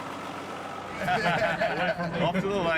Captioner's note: all laugh